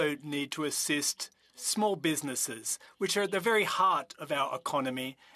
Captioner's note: speaking French